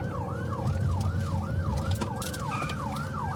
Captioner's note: siren wailing